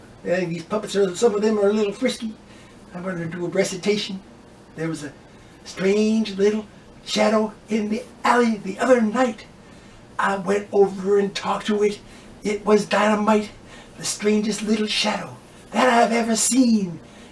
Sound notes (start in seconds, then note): none